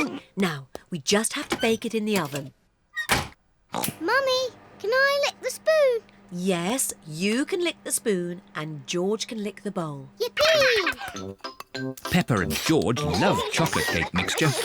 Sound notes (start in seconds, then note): 3.4 oinks; 10.3 giggles